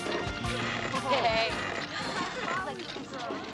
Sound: chattering

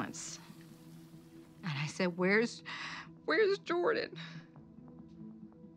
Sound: voice breaking

